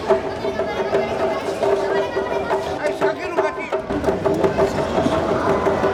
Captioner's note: speaking in foreign language; crowd chattering